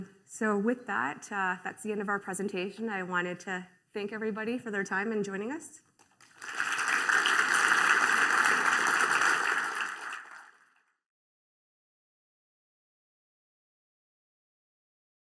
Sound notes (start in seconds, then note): 6.1 applause